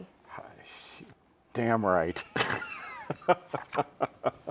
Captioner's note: both laughing